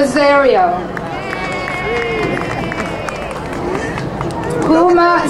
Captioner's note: crowd cheering